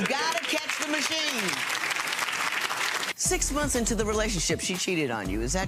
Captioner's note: audience applauding